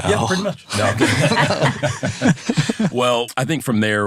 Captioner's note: laughing